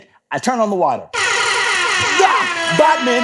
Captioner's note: siren sounds